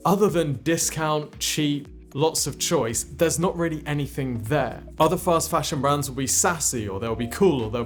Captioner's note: none